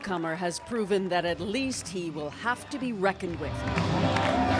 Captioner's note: chants